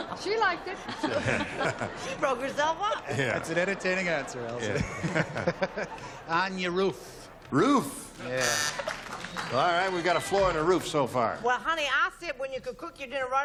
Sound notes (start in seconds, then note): 4.1 chuckles